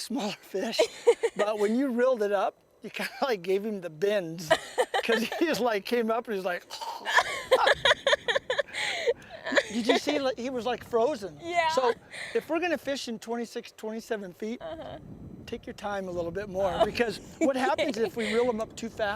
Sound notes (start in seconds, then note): 1.4 laughter; 6.8 funnu noise